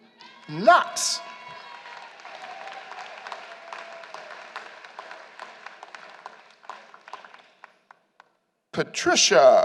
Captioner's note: applause